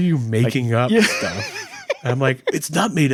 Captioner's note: laughing